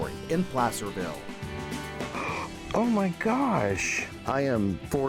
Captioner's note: gasp